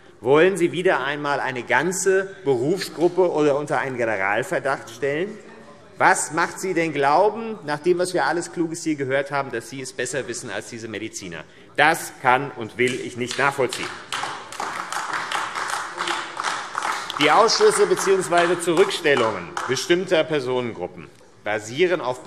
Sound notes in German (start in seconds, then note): 13.2 Beifall AfD